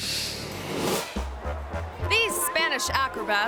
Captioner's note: graphics whooshing; playful music